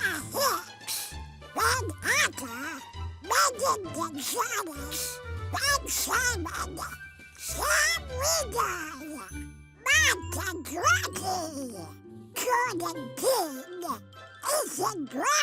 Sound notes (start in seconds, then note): none